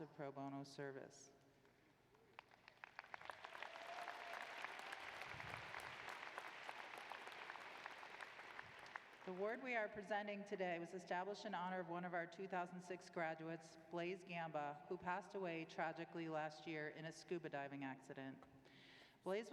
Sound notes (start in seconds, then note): 2.2 applause